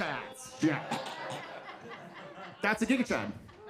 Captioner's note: imitates choking